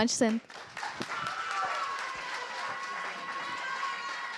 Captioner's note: cheers, applause